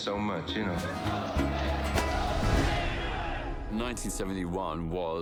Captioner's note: protestors chanting